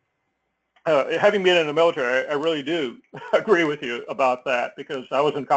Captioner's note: laugh